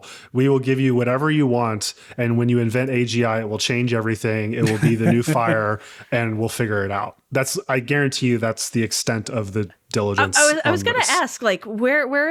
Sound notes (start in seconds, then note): 4.6 laughing